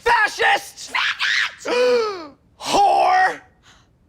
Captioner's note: gasps